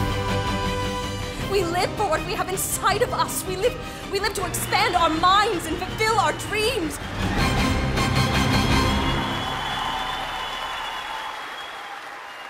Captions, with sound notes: We live for what we have inside of us. We live to expand our minds and fulfill our dreams. (triumphant music) (crowd cheering)